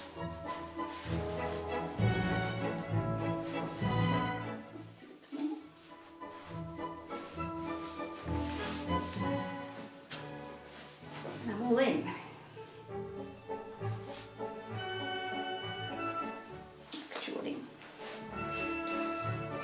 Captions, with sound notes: (footsteps) A little bit more. (laces shuffling) And I'm all in. Actually.